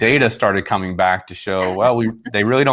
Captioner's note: laughs